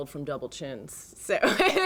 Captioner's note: laughter